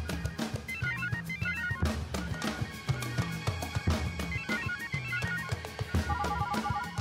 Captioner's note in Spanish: suena el otro celular